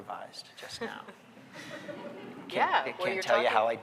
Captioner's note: audience laughing